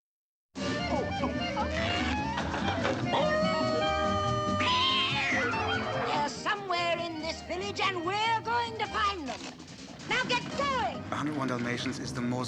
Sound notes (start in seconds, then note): 2.9 howling; 3.2 screeching; 4.3 barking